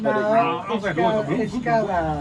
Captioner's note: men chattering